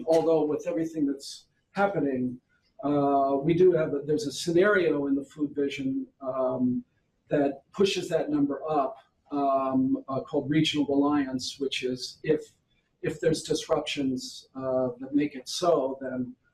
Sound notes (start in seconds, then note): none